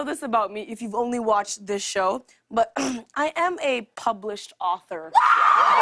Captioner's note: clears throat; cheers and applause